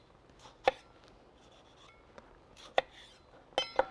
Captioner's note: knife tapping